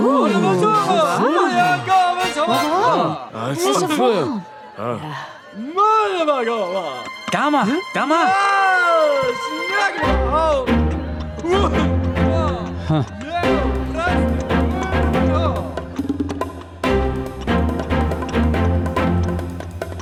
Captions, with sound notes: - Oooo, ahhh. - Oooo, ahhh. - (speaks in another language) (upbeat orchestral music)